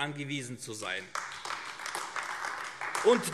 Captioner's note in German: Beifall AfD